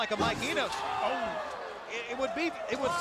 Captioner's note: crowd cheering